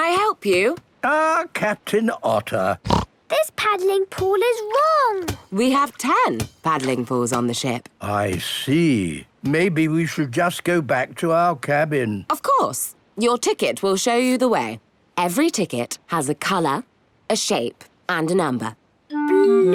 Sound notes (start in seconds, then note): 2.8 snorts